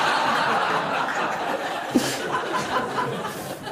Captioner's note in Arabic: ضحك